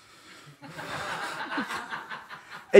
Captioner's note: laughter